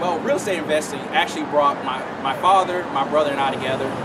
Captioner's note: car noise